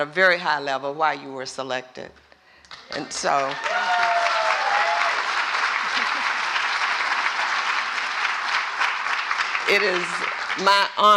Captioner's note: applause